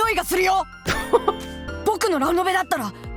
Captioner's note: chuckles